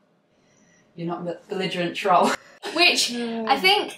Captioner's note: laughs